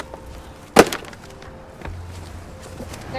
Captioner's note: toys stacking